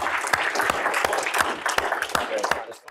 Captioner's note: applause